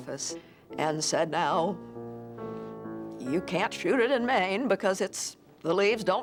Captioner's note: voice Quavering